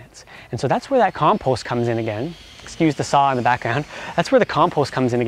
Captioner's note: machine noise